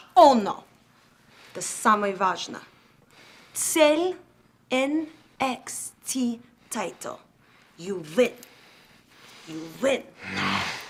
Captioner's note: speaking in foreign language